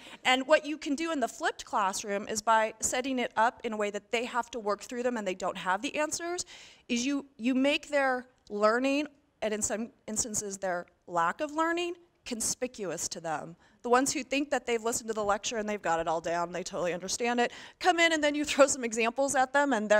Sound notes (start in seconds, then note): none